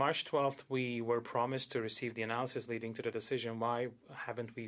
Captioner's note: speaking French